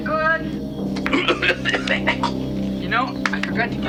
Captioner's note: coughing violently